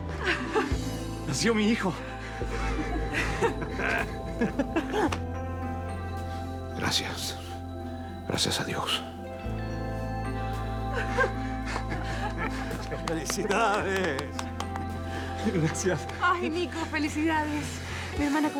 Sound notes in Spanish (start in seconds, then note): 4.2 Risas y suspiros de alivio; 15.0 Palmadas y risas